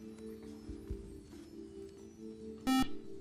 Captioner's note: beep